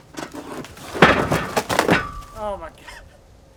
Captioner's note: wood thuds